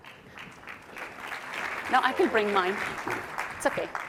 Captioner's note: applause